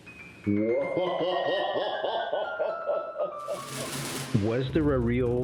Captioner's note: laughs